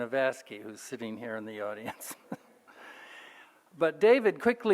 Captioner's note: laughs